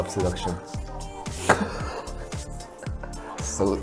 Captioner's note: laughing